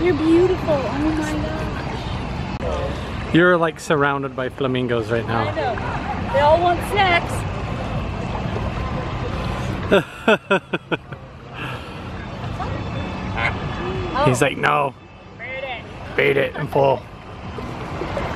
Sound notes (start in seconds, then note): 9.8 chuckles; 13.3 flamingo squawks